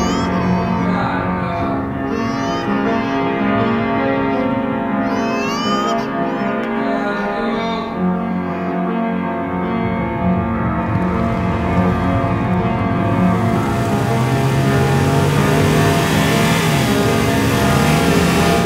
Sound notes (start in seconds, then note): 10.8 engine revs harshly from outside the speeding car